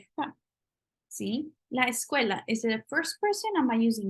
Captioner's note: spanish